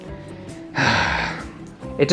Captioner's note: sigh